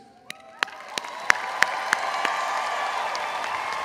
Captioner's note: crowd applauds